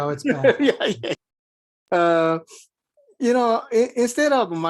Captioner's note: laughs